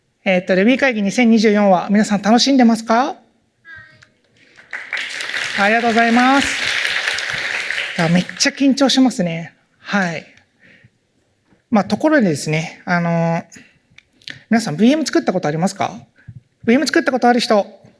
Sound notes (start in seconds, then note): 4.4 applause